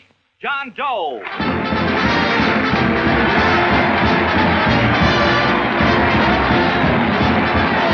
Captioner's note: applauding; orchestral music